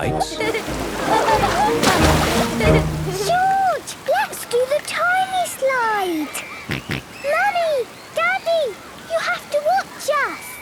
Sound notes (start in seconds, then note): 0.3 laughing; 6.4 George snorts